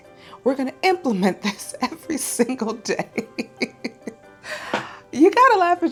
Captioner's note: laughing